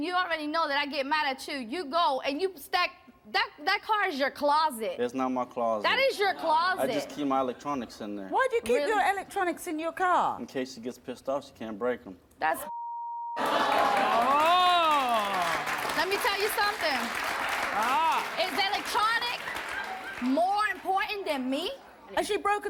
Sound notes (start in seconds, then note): 12.6 beep; 14.2 audience applauds